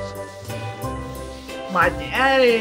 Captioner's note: sander shuffling